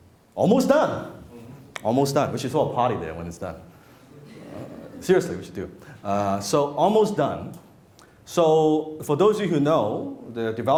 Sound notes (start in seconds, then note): 4.2 laughing